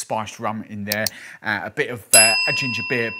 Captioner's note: mouse clicking; bell ringing